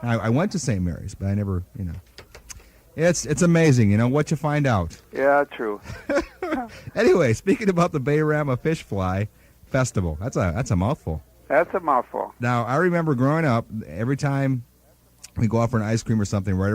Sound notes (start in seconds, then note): 5.1 laughing